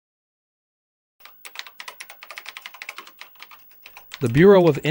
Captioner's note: keyboard clicks